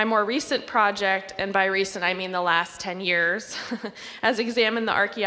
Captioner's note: laughs